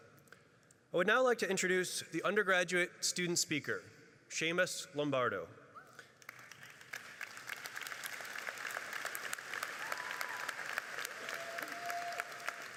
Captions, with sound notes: I would now like to introduce the undergraduate student speaker, Seamus Lombardo. (audience applauding)